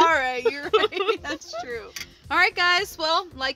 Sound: laughing

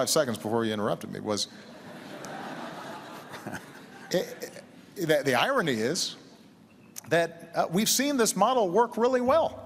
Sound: laughter

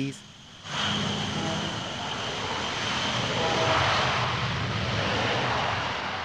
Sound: roaring airplane engine noise

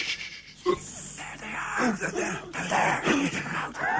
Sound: Brigands shushing; whispering

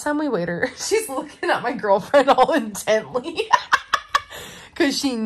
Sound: laughs

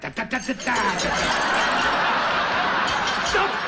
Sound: laughter

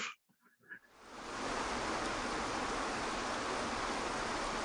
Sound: water rushing

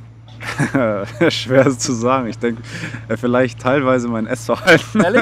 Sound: laughing

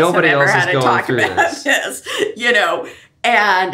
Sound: laughs

